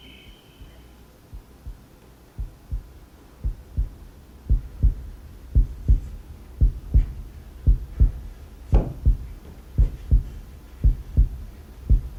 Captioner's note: insects chirping; insects stop; heart beating